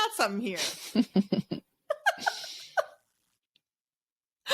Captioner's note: laugh